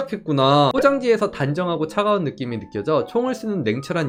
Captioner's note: voiceover